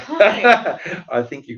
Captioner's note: laughs